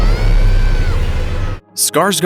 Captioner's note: screams